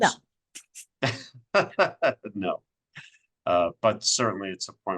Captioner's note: laughs